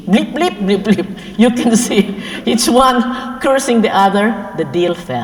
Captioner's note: laugh